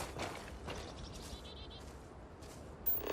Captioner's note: ground crunching underfoot